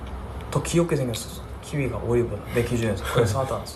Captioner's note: gasp